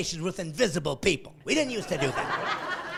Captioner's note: laughing